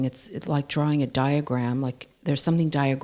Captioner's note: none